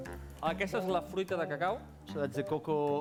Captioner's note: non-english speech